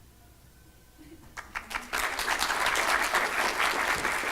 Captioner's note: applause